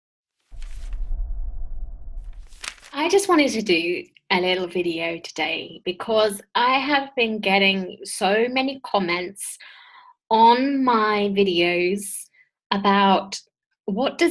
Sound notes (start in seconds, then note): 2.2 pages flipping